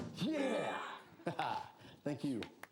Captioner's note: chuckling